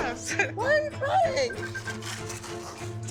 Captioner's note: phone beeps